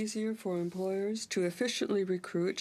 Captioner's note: speaking French